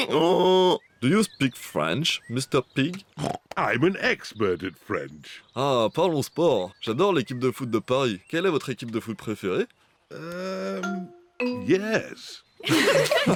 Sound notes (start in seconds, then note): 0.0 brays; 5.0 speaks french; 12.6 all giggle